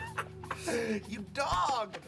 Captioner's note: laughs; singsong voice